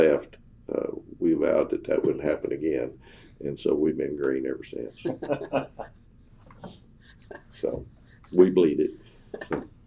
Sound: laughter

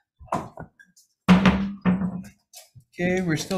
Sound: gavel pounding

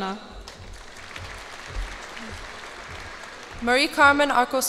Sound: cheers and applause

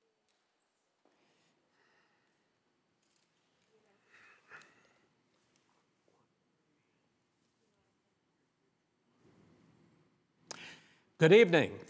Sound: silence

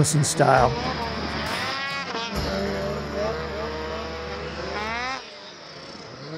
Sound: snowmobile engine revving

